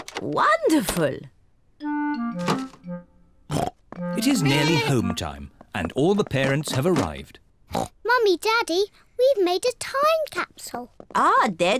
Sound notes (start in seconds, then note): 7.7 oinks